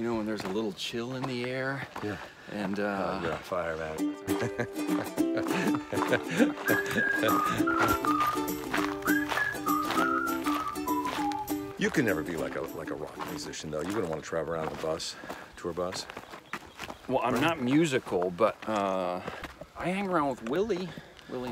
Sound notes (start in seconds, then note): 4.2 laughing; 4.4 whimsical music; 7.1 footsteps crunching